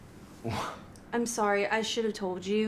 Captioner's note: Miguel scoffs in disbelief